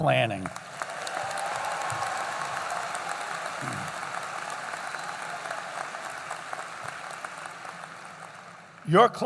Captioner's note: applause